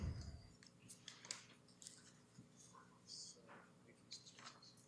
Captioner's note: whispering